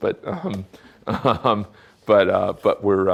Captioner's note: chuckling